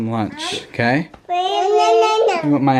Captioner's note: child babbling